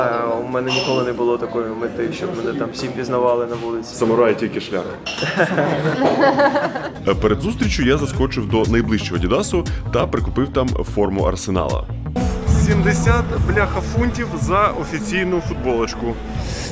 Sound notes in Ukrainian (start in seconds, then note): 5.3 сміються